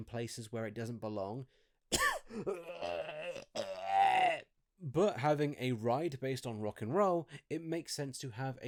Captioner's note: COUGH quite disgustungly